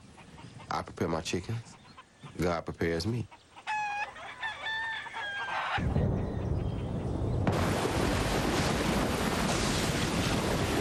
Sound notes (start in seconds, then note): 3.6 crowing; 5.8 thunder